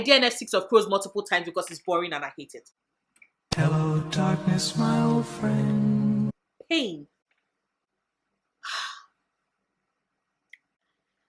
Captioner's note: sigh